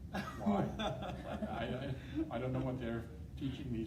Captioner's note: laughing